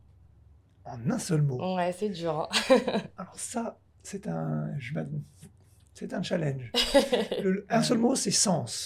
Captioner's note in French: rires